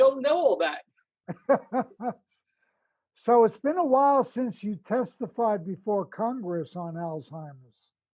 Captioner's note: laughter